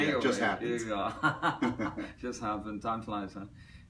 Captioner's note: Tommy laughs